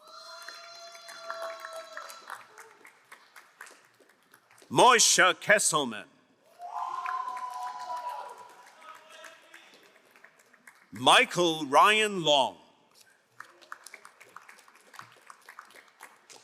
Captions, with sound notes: (crowd cheering and applauding) Mosha Kesselman. (crowd cheering and applauding) Michael Ryan Long. (crowd applauding)